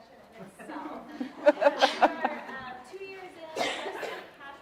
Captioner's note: audience laughing